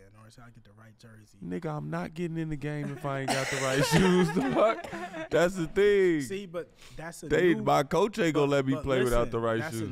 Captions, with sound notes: "or until I get the right jersey." - Nigga, I'm not getting in the game if I ain't got the right shoes, dog. That's the thing. (all laugh) See, but that's a new- - My coach ain't gonna let me play without the right shoes.